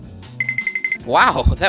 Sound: cartoon Tiptoe Sound

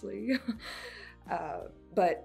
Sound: laughs nervously

